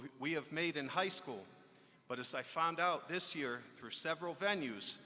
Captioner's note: none